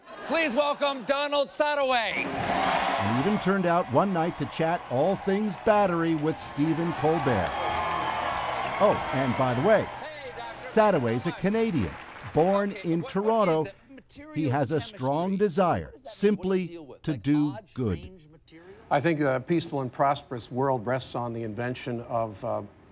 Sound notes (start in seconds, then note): 7.6 cheering